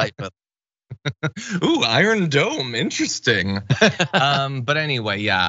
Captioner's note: laugh